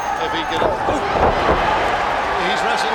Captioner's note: blows thudding; footsteps plodding; body thudding